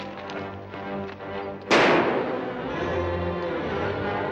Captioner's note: gunshots